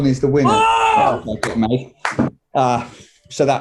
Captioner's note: applauds